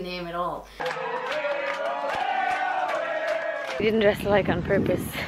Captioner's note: cheering and singing